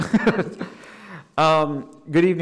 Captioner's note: soft chuckle